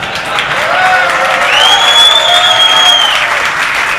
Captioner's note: audience applauding